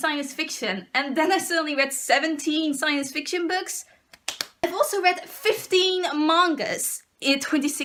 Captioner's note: applause